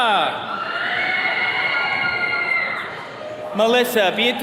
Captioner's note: attendees cheering